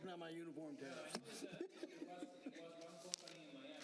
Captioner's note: laughter